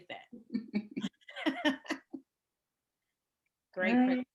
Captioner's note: laughing